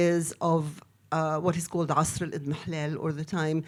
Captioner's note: speaks in foreign language